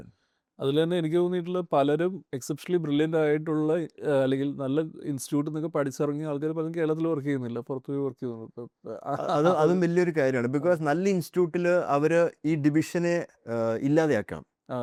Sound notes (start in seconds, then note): 8.8 laughing